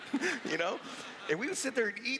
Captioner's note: laughs